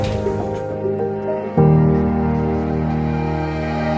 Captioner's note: airport intercom